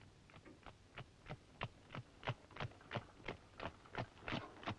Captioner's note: hooves clopping